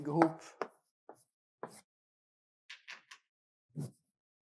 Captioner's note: chalk taps